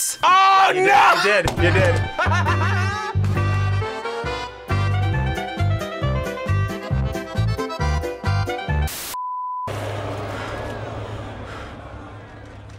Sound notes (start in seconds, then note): 1.2 laughs; 2.6 playful music; 8.9 static crackles; 8.9 test pattern beeps